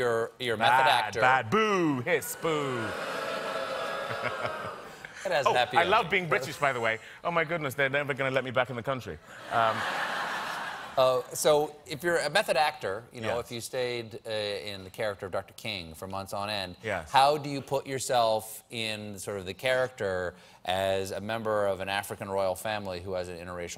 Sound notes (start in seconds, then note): 5.8 booing